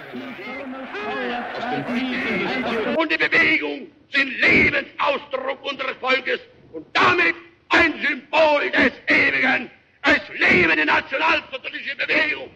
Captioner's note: German speech